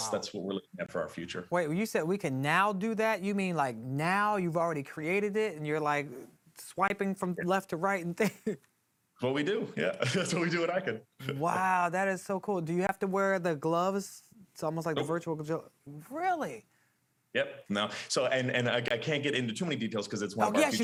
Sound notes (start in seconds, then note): 9.8 chuckles